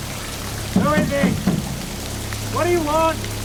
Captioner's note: bangs on door